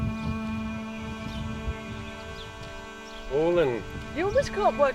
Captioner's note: birds chirping